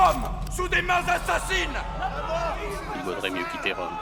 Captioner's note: crowd yelling